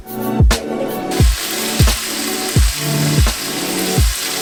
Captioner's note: meat sizzling